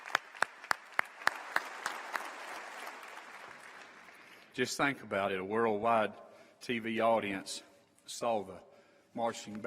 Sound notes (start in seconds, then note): 6.3 applause